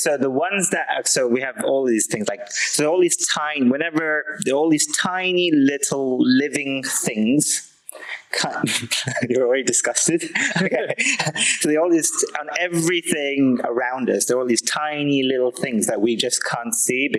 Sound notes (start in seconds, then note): 6.9 laughing